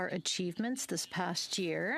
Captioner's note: speaking French